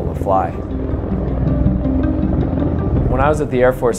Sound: rotors spinning

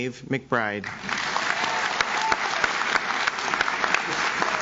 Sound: audience claps

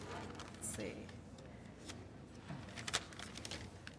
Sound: papers shuffling

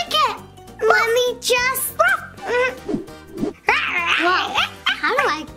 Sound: baby barking

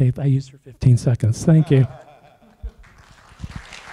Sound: chuckles; applause

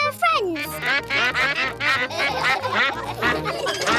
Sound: quacks; all quack; laughter

